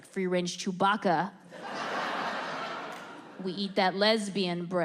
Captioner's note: audience laughs